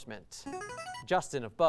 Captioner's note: ringing